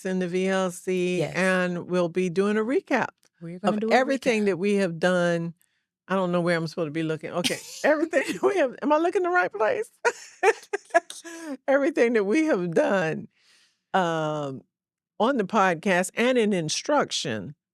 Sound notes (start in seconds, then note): 10.0 laughs